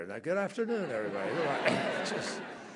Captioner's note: laughter